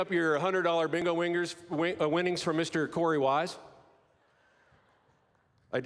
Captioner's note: applause